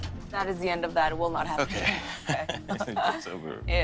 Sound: laughs

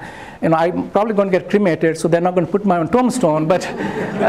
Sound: laughter

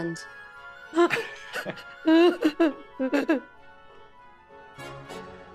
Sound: group laughs

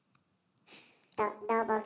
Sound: laughing

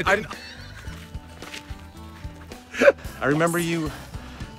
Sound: Kevin laughs

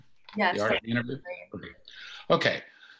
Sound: audio glitch

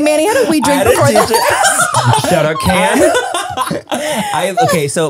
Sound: everyone laughs

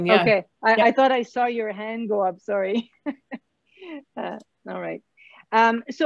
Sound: laughs

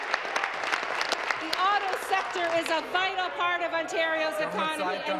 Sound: applause

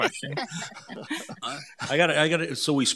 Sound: all laughing

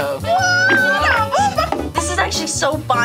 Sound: both exclaiming

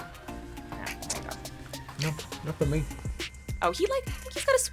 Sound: smacks his lips

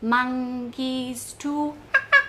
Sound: mimicking monkey noises

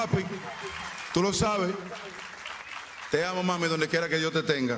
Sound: speaking spanish; applause; speaking spanish

